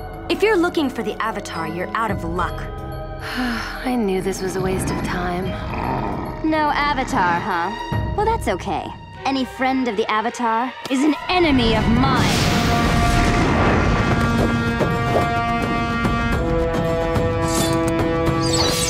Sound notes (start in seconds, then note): 3.2 Mai sighs; 4.6 Appa growls; 12.6 Appa growls; 12.6 ominous music